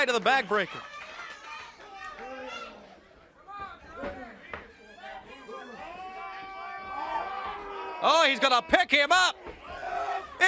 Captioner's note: crowd chatter